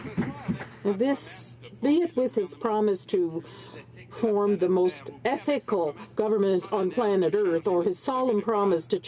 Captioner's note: some Applause